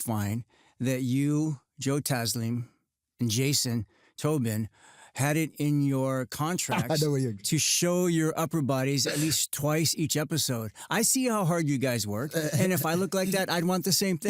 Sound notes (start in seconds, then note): 6.7 laughs